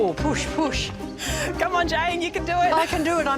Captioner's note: laughs